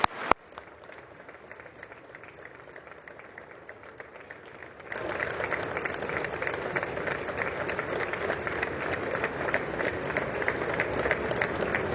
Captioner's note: applause